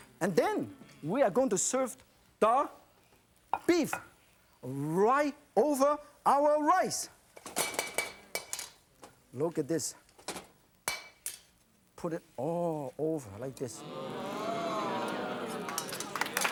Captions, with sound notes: And then, we are going to serve the beef, right over our rice! (clanging) Look at this. (clang) Put it all over, like this. (audience oohing)